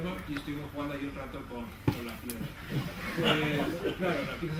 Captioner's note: laughter